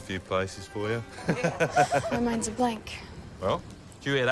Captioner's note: laughs